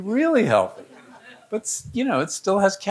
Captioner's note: audience laughing